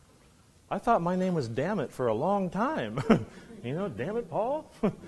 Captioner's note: laughs